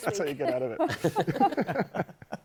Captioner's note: laughter